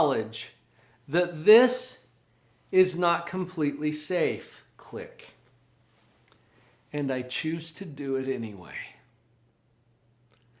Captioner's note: click